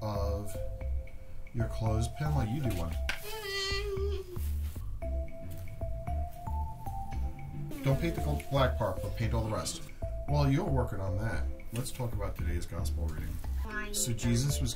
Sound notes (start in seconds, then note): 3.2 hums softly